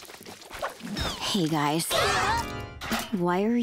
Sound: shrieking

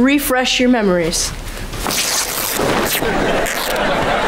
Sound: tearing

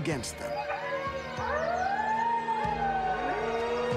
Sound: wolves howling

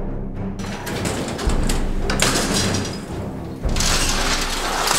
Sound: dramatic music; gates clanking

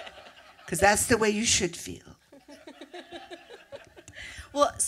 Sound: laughter

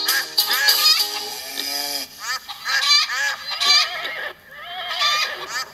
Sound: animals Whinnying, Grunting, Mooing, Clucking & Quacking

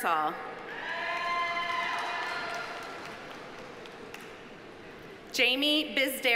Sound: audience cheering; audience applauding

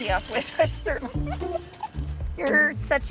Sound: laughter continues

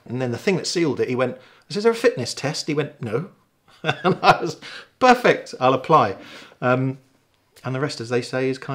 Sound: laughing

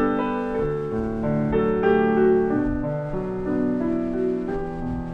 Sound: wind blowing

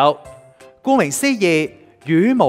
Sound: Cantonese

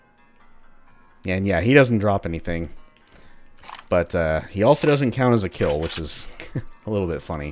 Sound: chuckles

